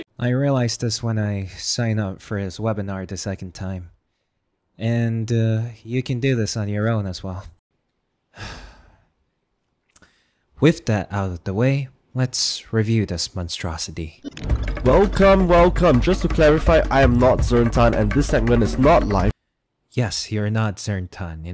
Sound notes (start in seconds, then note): 8.3 sigh; 14.2 glitch sound effects; 14.3 tense music playing